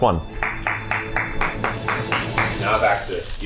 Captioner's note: clapping